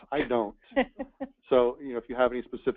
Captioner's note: laughs